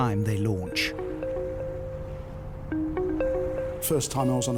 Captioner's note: eerie music; water trickles